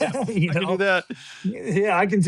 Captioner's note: laughs